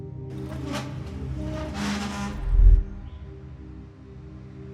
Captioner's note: couch scraping